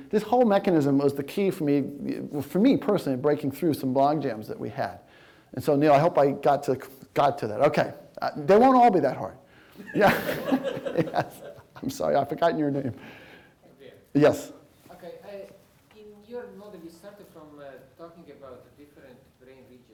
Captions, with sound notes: this whole mechanism was the key for me... for me, personally, breaking through bond jams that we had and so I hope I got to it... It won't all be that hard... [LAUGHTER] I'm sorry, I've forgotten your name...